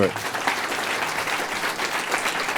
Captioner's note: applause